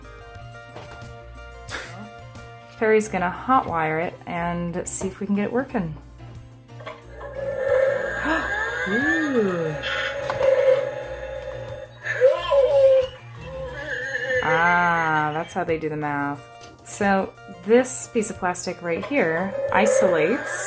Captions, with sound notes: Peri's gonna hotwire it and see if we can get working (machine noise) Ah.. ooooo! Ahh.. that's how they do the math So this piece of plastic right here isolates